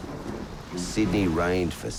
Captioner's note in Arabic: صوت الرعد